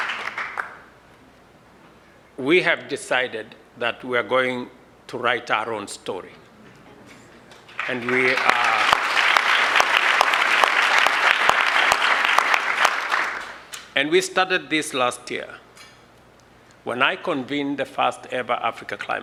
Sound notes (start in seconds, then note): 11.4 applause